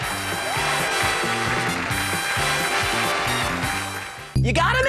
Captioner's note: audience applauding